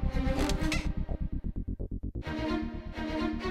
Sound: furniture squeaking

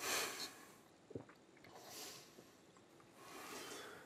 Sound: gulps

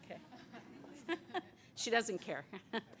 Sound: laughter

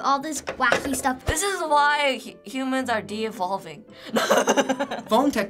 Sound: laughs

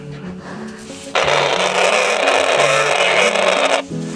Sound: radio static

